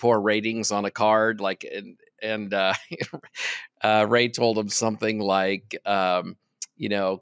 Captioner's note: chuckles